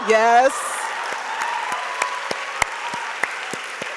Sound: audience applauds

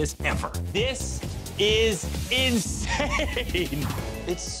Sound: laughs

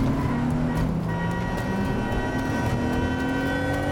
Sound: horn honking

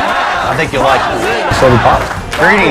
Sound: audience chanting

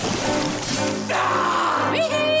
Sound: screaming; laughing

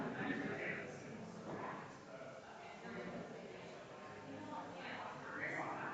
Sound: people chattering distantly continues

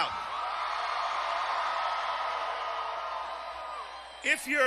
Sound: cheers

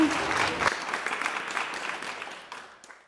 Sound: applause

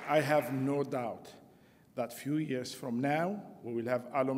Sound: applause

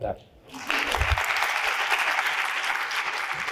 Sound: applause

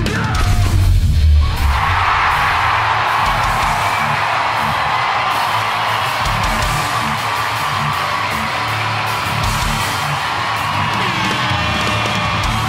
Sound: crowd Cheer

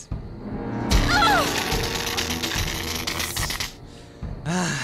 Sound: brzzzzt

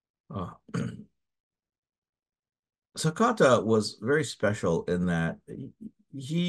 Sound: cough

